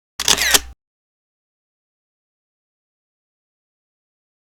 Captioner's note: camera lens snapping